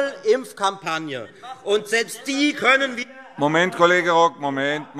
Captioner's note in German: Zurufe - Unruhe